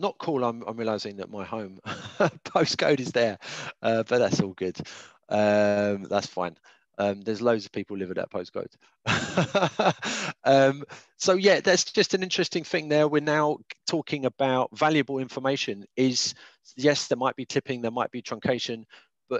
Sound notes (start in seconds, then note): 9.0 laughs